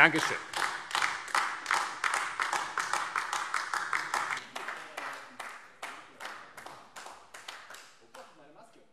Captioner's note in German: Beifall AfD